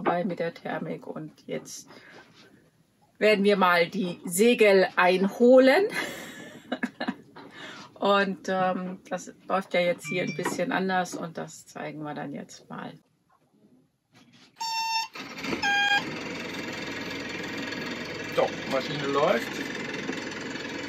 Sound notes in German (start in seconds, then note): 6.0 lacht